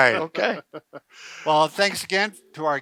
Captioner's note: men laughing